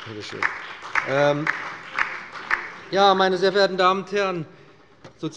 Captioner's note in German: Beifall